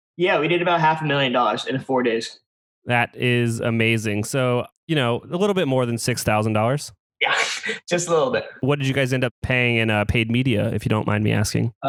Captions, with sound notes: Yeah, we did about half a million dollars in 4 days. That is amazing. So a little bit more than $6,000 Yeah. (laughs) Just a little bit. What did you guys end up paying in paid media? If you don't mind me asking.